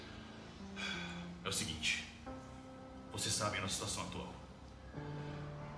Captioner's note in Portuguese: suspiro